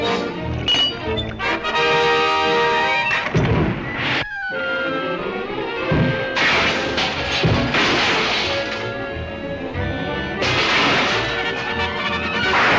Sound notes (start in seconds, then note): 0.0 dramatic music; 0.0 metal clanking; 1.9 triumphant music; 3.8 metal clanking and thudding; 3.8 tense music